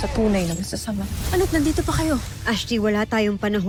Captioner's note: infernal whoosh-crackle